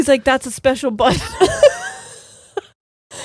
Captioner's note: both laughing